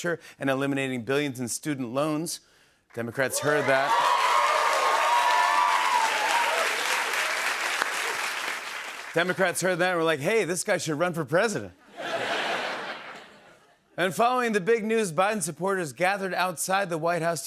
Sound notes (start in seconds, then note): 3.3 cheers and applause; 11.9 laughter